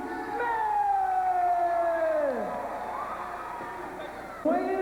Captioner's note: crowd cheering